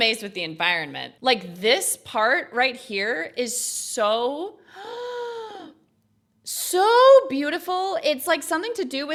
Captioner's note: gasps